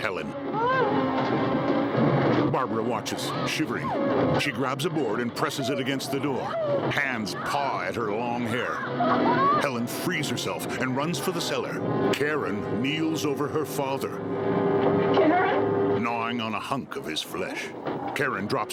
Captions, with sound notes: No! [Helen whimpering] No! [screaming] [dramatic chord] Karen? Karen?